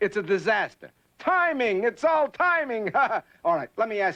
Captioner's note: laughs